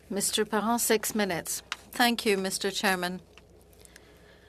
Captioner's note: speaking French